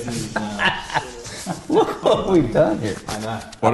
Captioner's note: laughs